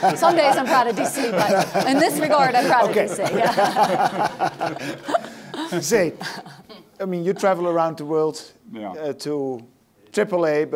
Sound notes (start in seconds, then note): 4.0 laughs